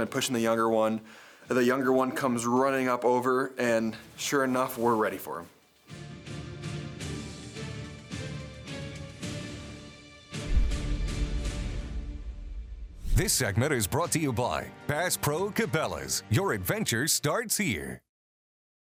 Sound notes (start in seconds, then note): 6.0 suspenseful music continues; 13.1 logo whooshes